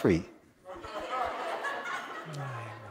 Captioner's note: laughter